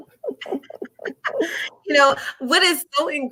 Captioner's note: laughing